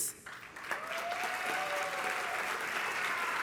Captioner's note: applause and cheering